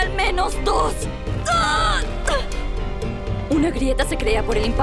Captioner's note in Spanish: Quejidos de dolor